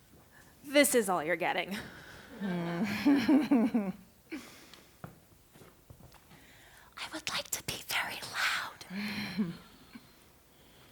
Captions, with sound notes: This is all you're getting. [laughter] [whispering] I would like to be very loud.